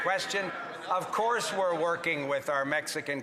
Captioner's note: some Applause